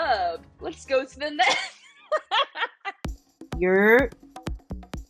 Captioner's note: laughing; voiceover